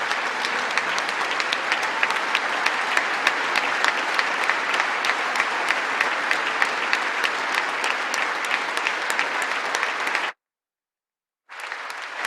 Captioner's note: applause